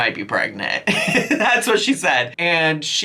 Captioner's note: laughs